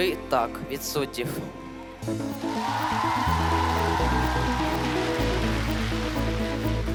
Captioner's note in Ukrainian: оплески